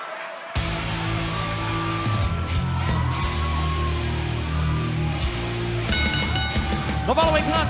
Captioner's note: crowd cheering; bell ringing